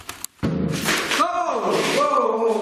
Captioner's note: banging